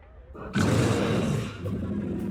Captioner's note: roars